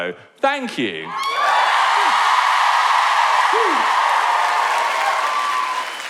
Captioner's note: cheering